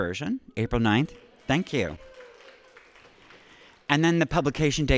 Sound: audience applauding

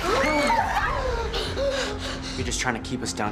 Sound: yelling

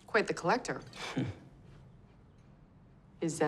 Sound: chuckles

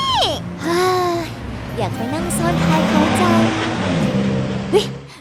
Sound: sighs

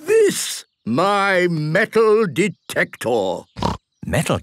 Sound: snorting

